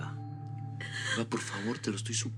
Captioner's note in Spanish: Sollozos